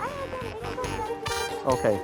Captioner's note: woman chatters